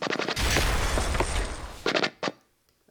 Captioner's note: explosion